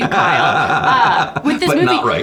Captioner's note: laughing